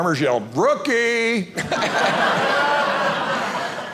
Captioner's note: audience laughing